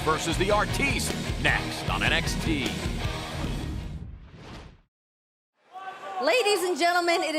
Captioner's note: crowd cheering